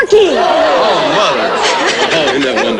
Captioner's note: overlapping disappointed responses